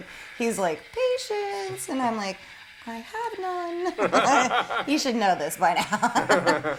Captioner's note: laughter